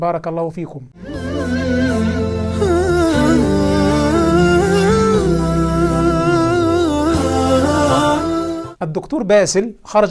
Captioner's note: logo and sound effect